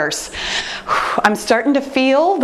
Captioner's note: heavy sigh